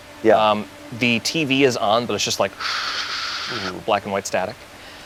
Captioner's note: mimics static